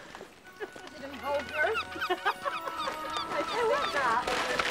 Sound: chattering, laughing

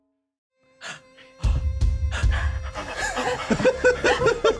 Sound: co-hosts staccato breathing; co-host laughing

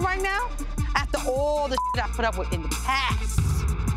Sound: beep

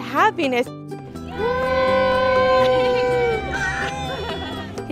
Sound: group cheering

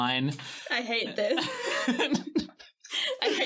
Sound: laughing

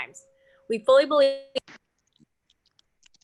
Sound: audio skips

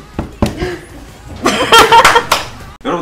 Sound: staff laughing so hard

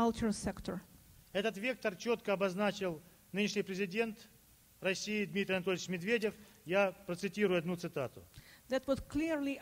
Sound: speaking Russian

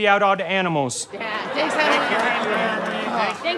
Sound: audience laughter

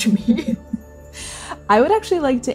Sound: both chuckling

